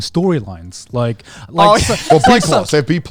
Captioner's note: laughing